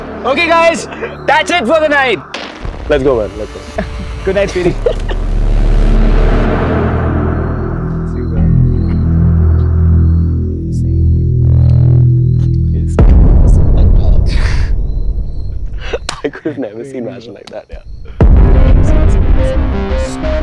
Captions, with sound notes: Okay, guys. That's it for the night. Let's go, man. Let's go. Good night, sweetie. See you then. See you. He's the big daddy among all. [Laughs] I could never see a match like that.